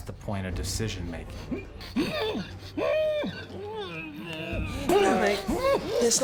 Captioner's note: groaning